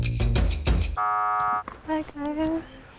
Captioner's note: buzzing sound